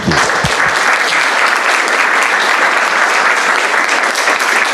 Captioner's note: applause